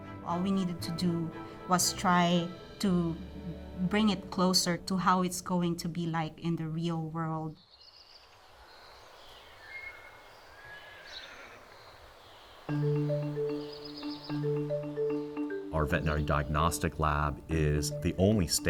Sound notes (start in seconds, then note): 10.6 birds chirping; 10.6 horses neighing